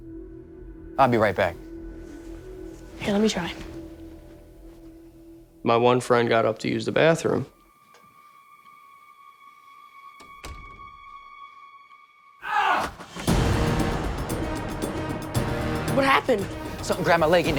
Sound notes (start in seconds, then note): 12.5 boy yells